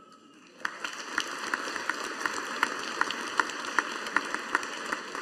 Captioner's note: audience applauding